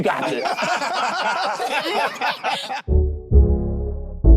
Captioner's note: group laughs; slow upbeat music